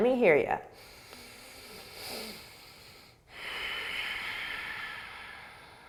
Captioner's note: deep breathing